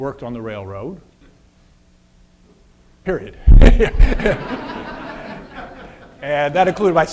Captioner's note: audience laughter